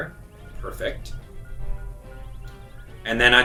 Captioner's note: bomb ticking